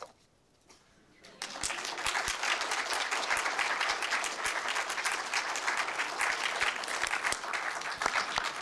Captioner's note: applause